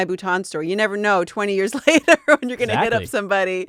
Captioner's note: laughing